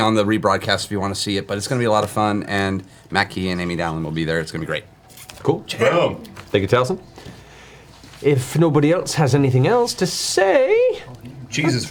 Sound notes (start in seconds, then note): none